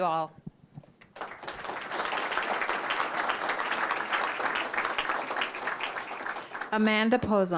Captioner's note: applause